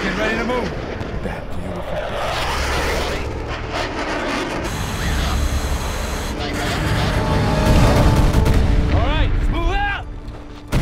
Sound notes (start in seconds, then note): 4.8 radio chattering; 7.6 explosion booming